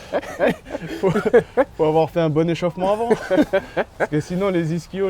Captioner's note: laughs; laughs